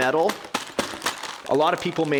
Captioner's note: clanging